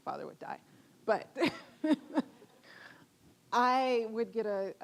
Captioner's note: chuckling